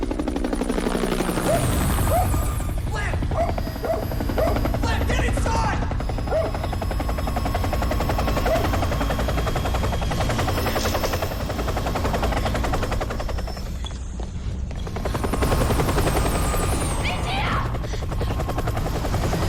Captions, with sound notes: (HELICOPTER ROARS) - (BARKS) - Flip! (BARKS) Flip, get inside! (BARKS) It's here!